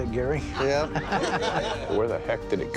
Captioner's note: laughter